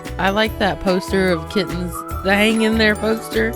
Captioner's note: none